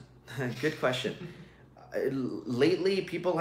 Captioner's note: chuckles